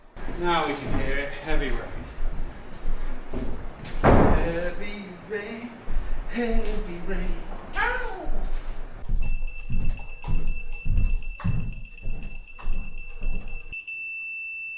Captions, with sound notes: Now we can hear it, heavy rain. Heavy rain, heavy rain Ow! (beeping)